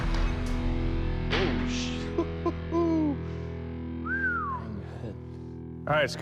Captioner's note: laughs; whistles